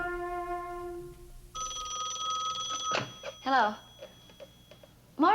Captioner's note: phone rings